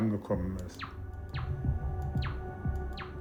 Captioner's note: intermittent beeping